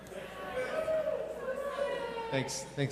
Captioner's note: audience members cheer